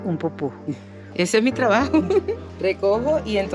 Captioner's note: laugh